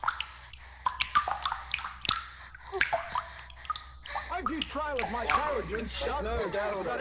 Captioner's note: Elara breathes hard as Roberts and Beckett quibble upstairs